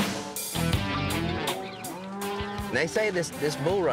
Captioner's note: mooing